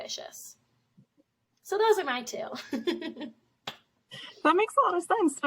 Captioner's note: laughs